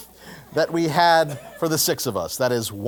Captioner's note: laugh